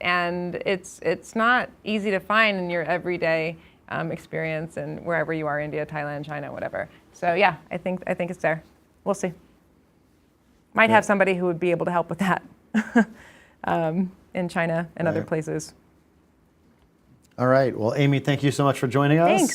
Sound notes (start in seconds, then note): 12.9 laughs